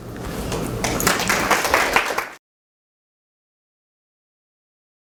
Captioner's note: applause